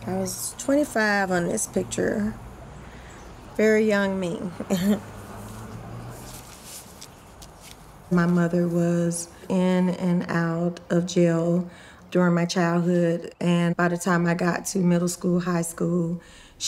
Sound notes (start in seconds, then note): 5.2 chuckles